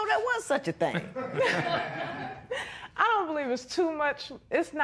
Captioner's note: laughter